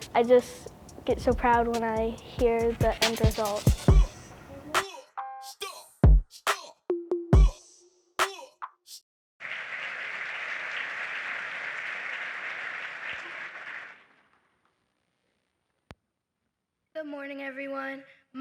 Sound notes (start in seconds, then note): 4.1 hip Hop music; 9.4 applause